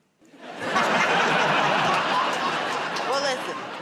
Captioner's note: laughter